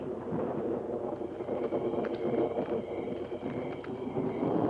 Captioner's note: insects chirping